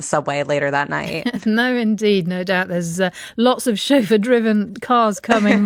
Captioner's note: laughs